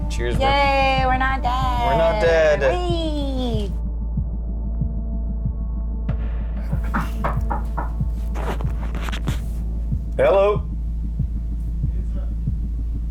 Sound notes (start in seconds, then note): 6.7 knocking on the door